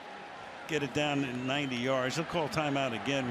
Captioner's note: cheers